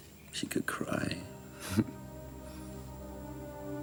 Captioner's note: laughs